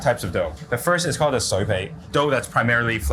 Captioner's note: speaks in foreign language